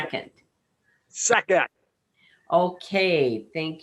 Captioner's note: laughs